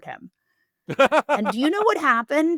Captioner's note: laughing